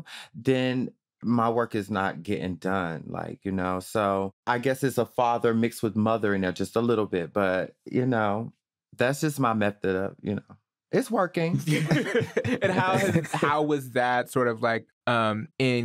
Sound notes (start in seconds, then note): 11.5 laughter